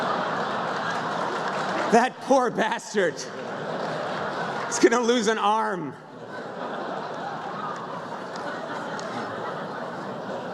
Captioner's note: laughter